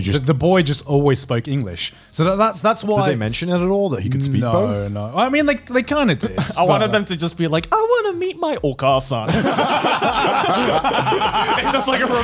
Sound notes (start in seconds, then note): 8.8 in foreign language; 9.3 laughs